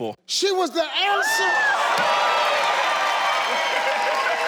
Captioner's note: audience cheers